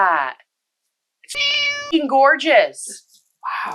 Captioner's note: meow